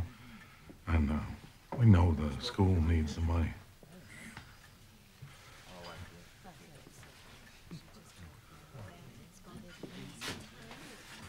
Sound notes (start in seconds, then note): 4.6 overlapping chatter in background